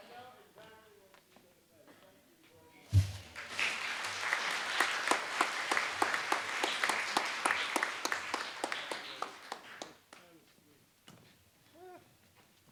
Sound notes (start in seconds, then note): 2.9 applause